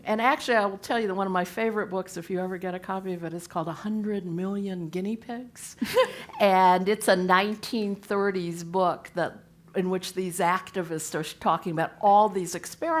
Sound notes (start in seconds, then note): 5.8 laugh